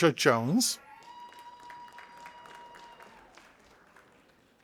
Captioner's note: audience applauding